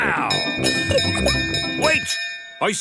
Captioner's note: bell chimes